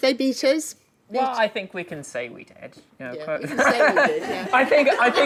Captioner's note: laughing